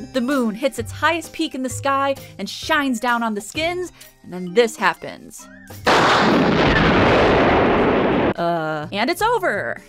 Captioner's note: explosions